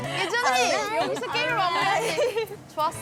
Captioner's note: excited